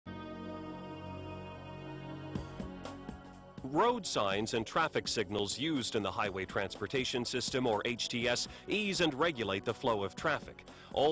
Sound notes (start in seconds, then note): 4.0 voiceover